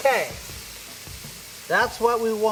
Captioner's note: chicken sizzling